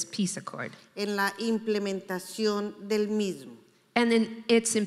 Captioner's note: speaking in foreign language